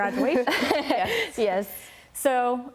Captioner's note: laughter